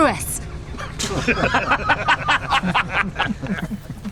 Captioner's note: men laughing